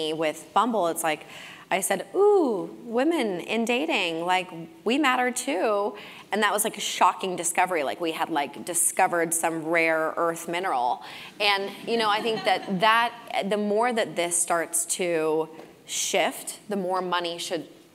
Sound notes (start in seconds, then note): 12.1 laugh